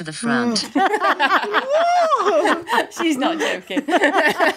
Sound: all laughing

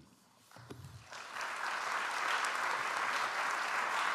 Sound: audience applauds

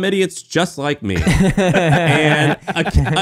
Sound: laughing

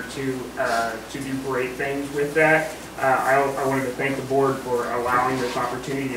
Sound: none

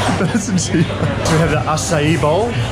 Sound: laughing

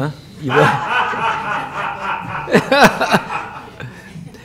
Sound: laughter

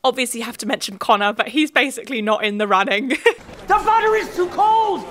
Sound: laughs

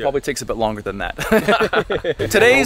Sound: laugh

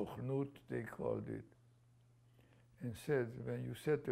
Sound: non-english

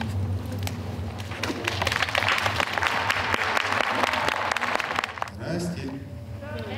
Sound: applause

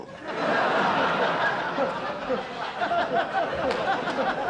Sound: audience laughter

